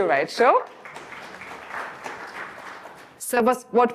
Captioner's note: audience applauding